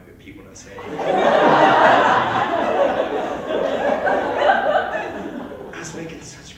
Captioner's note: immediate Laughter